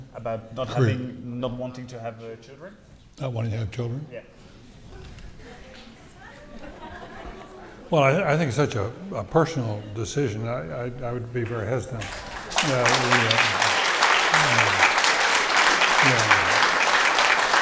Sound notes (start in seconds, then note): 5.0 audience chatter; 11.9 audience clapping